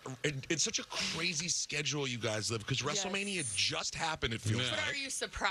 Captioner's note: laughing